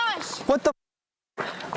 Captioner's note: muted